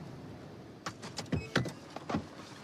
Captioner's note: beeping